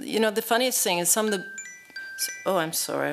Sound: cell phone chimes

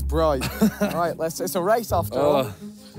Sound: laughs

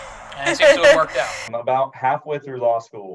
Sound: laughs

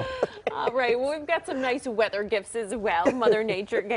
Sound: laughter

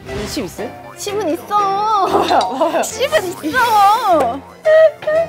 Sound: haha

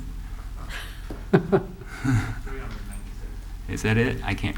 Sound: laughter

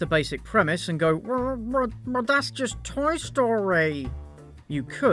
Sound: troll voice

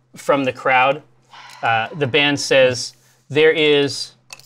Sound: quiet cheer

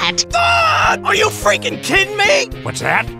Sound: screams

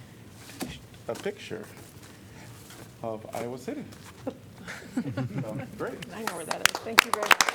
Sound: laughter; applause

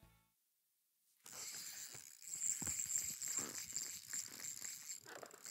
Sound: drag whirring

